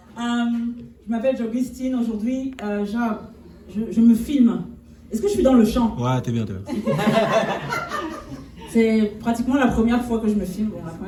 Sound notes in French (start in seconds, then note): 6.6 rires